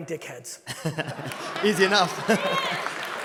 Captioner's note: laughs; audience laughing